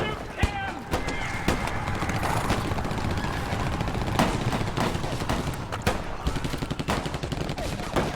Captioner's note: gunshots